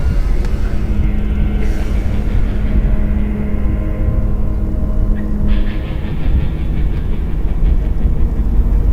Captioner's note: wind blowing